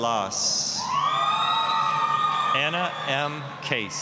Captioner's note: applause, cheering